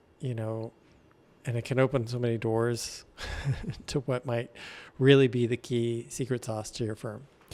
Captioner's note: chuckles